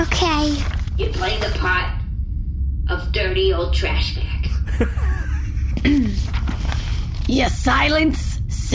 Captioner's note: loudly in Bargie imitation